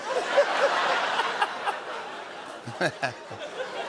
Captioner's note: laughter